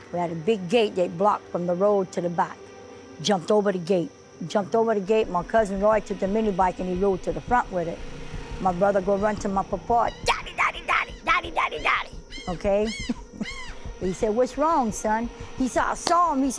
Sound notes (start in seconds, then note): 13.4 laughing